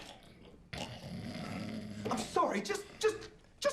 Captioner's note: guy snoring